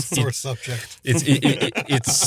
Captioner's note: laughs